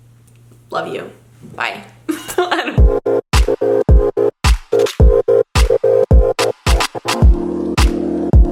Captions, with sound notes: Love you. Bye. (giggles) (upbeat music)